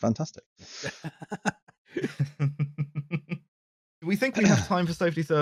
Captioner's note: laughter